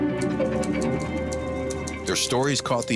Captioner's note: keys clicking